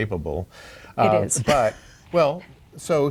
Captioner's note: laughs